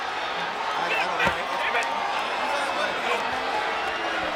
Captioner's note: people chattering